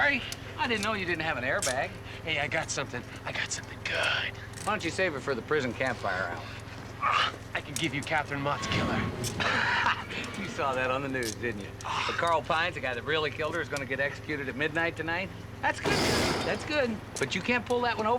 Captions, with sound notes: - Oh, I'm sorry, I didn't know you didn't have an airbag. - Hey, I got something. I got something good. - Why don't you save it for the prison campfire hour? - (grunts) I can give you Catherine Mott's killer. - (laughs) You saw that on the news, didn't you? Carl Pines, the guy that really killed her, is gonna get executed at midnight tonight. That's good, that's good.